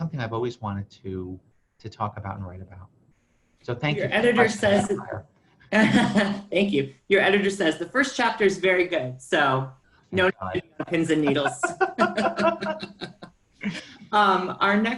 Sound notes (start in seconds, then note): 5.4 laughs; 10.6 laughter